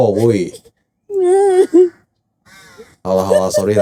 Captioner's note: female crow cawing